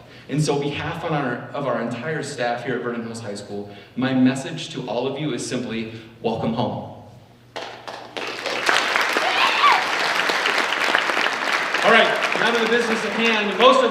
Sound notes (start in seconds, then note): 7.8 audience cheers and applauds